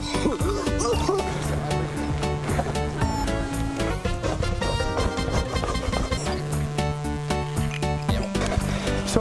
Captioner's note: coughing